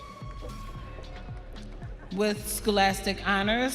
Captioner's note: audience cheering